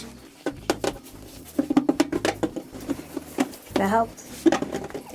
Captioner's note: metal creaking